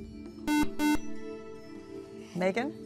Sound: buzzer

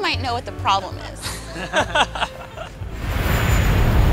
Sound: laughter

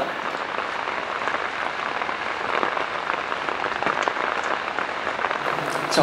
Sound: rain pours more as the night darkens

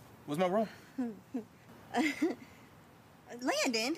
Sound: Hailey laughs

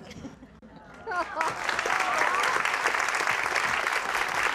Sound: applause

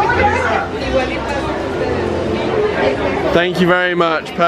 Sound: people chattering

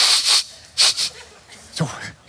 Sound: sniffs

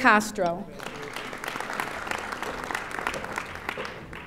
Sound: audience applauding

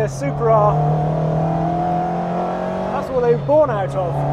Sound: engine revving

